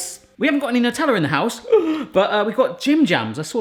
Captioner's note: gasps